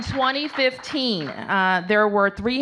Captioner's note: applause